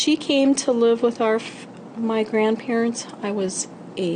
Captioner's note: voiceover